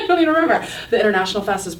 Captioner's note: laughing